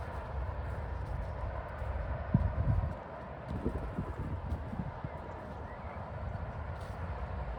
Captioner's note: motorway traffic noise